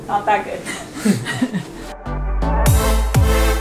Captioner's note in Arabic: ضحك; موسيقى حيوية